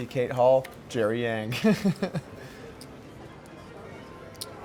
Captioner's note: laughs